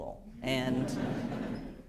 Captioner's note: laughter